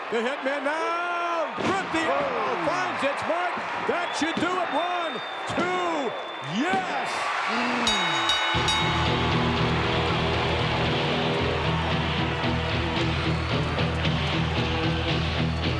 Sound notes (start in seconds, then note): 7.3 audience cheering; 7.3 bell ringing